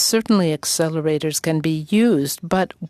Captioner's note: speaking french